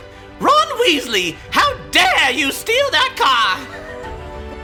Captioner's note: shrieking